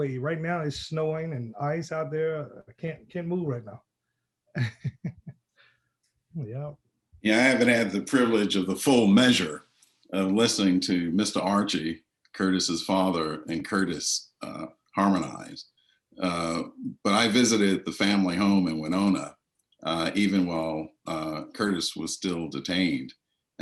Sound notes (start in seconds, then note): 4.6 laughter